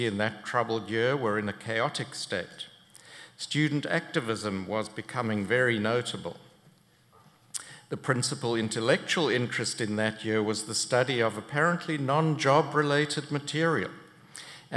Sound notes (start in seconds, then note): none